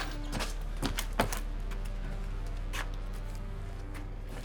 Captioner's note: door whirring